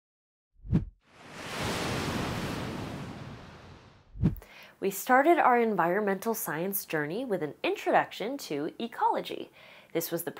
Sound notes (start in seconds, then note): 1.1 sound of waves crashing